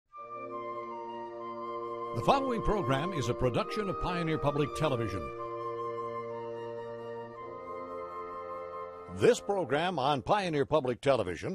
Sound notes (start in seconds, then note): 0.6 theme music; 2.1 voiceover